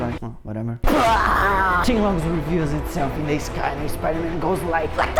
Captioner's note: boom